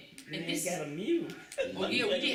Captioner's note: laughs